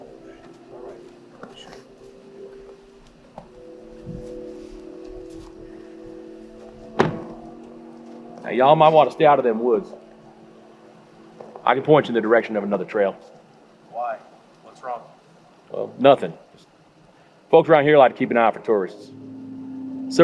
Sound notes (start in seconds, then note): 6.9 door closes